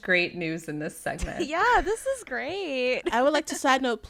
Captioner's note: laughter